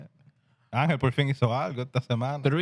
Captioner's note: speaking Spanish